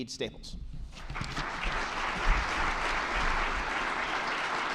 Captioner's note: attendees clapping